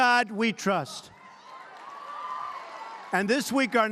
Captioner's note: applause